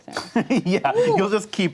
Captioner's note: laughs